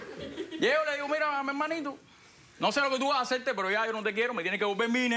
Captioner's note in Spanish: Risas